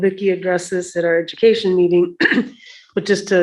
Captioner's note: clears throat